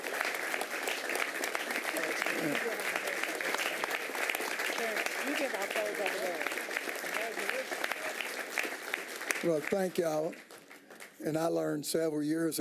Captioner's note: applause